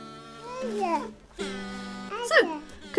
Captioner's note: baby vocalizing